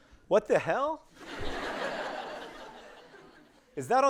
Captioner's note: audience laughing